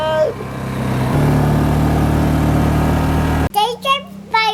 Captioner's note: ATV revs